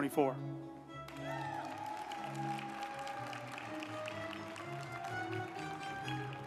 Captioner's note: uplifting music; group applauding